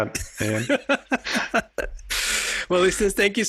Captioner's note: laughing